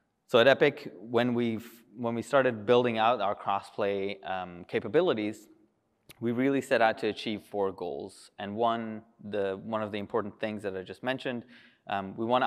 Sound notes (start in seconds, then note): none